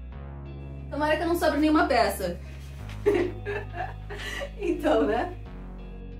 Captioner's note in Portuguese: rindo de nervoso